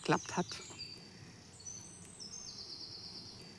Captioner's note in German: Vogelzwitschern